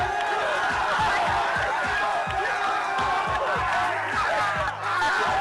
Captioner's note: wild cheering continues